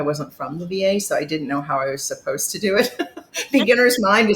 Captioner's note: chuckles